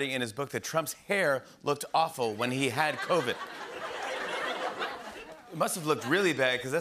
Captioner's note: laughter